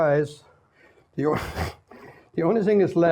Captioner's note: snickers